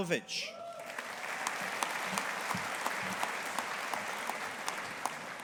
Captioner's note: audience applauding